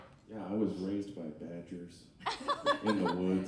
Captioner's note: laughing